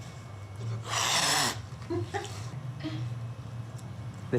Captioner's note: cat meows; cat hisses; laugh